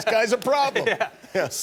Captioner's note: laughter